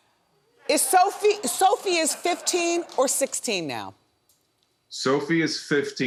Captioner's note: audience laughing